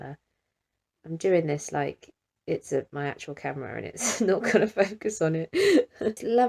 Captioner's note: laughs